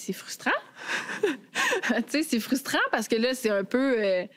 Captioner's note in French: rires